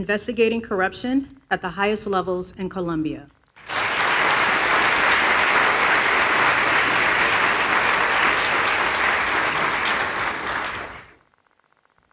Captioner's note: applause